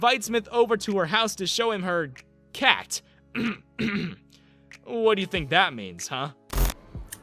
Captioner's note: ahem ahem